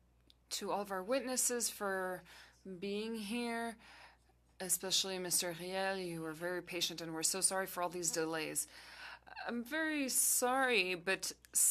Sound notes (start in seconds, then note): 4.6 speaking FRENCH